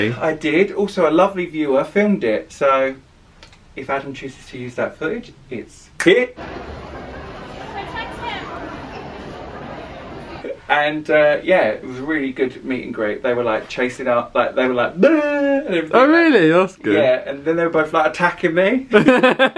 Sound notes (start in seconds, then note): 5.8 fingers snap